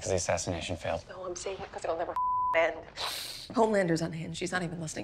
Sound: beep

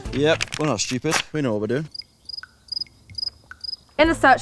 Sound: crickets chirping

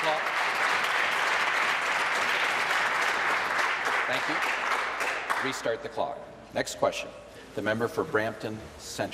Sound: applause

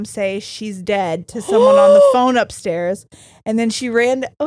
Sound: gasps

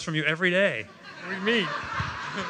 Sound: laughter

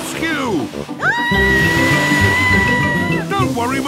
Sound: screaming

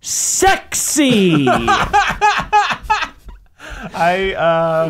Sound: laughing

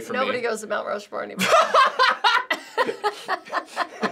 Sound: laughs

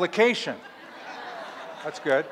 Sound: laughter

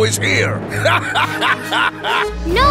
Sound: laughing

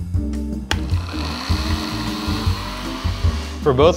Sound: blenders whirring

